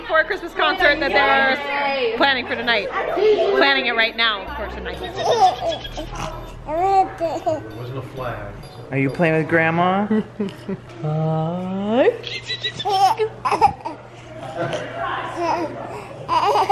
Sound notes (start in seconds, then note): 5.5 gurgles; 13.8 laughs